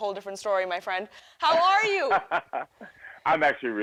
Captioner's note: laughs